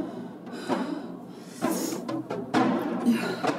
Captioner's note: dramatic rhythmic music continues; pants